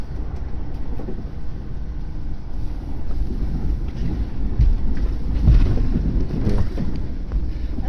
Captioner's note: Acela Express switching tracks roughly